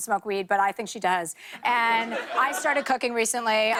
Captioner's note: laughter